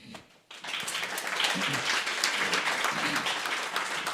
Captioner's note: audience clapping